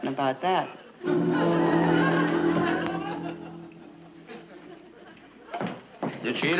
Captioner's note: quick musical dash; audience chuckling